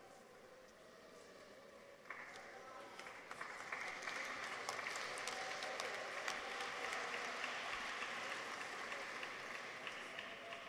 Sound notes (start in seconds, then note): 3.0 audience applauds